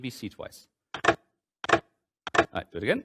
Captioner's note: mechanical clacking